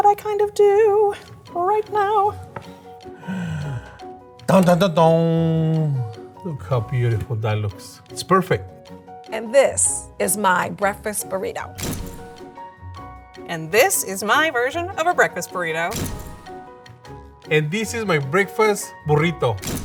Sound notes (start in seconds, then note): 3.0 sighs